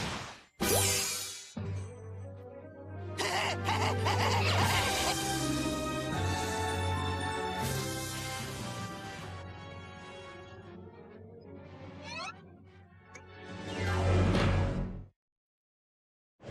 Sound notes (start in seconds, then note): 3.2 cackling; 4.8 laughter echoing